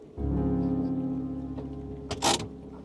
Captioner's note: door opens